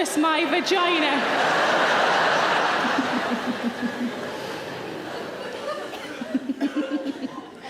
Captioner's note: audience laughing; Sarah chuckling